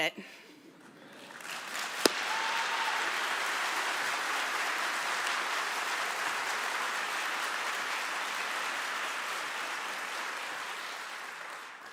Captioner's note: applause